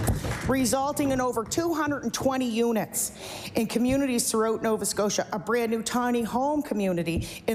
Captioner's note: applause